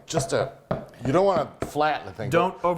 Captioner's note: pan bumping against surface